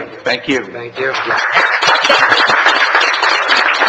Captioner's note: applause